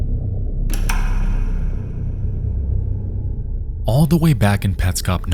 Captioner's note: clicking sound